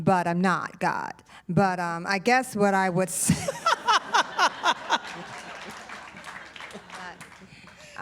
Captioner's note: laughter